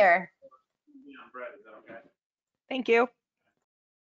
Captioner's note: murmurs